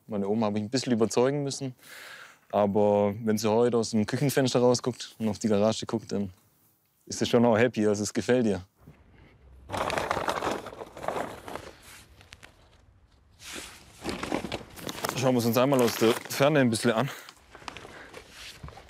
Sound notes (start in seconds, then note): 8.8 rattling